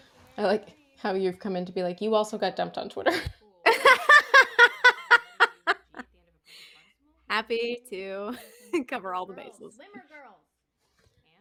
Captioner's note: laughter